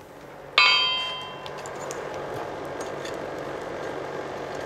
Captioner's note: mechanical whirring in the background